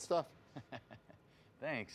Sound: Marshall laughing

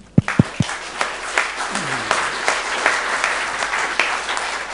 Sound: audience applauding

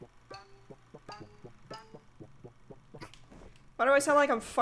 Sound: stealthy footsteps

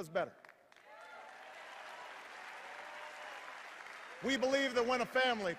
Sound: cheers and applause

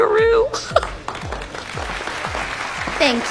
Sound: applause

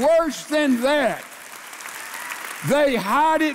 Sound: congregation applauding

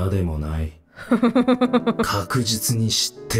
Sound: chuckles

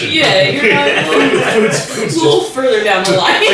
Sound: everyone laughing

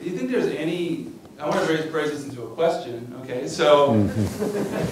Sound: laughter

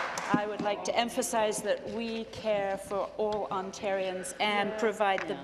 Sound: applause

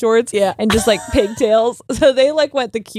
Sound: laughs

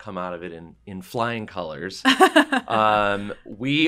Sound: laugh

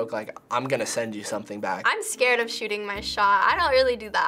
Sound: none

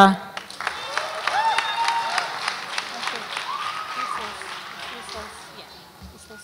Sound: audience applauds and cheers

